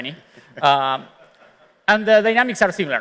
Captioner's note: chuckling